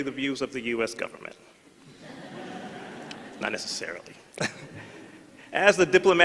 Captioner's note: laughter